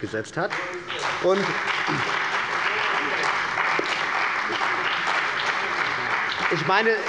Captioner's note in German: Beifall bei der CDU und dem BÜNDNIS 90/DIE GRÜNEN